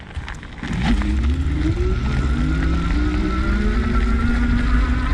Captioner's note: motor revving